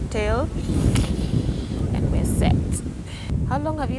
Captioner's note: slurp